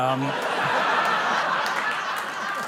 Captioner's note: laughter